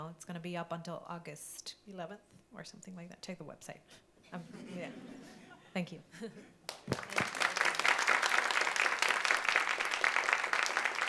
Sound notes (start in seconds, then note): 4.5 audience laughs; 6.7 audience applauding